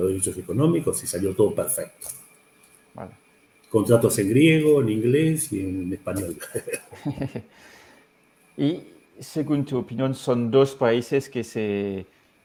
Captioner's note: laughs